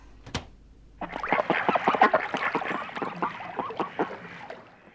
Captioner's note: ducks quacking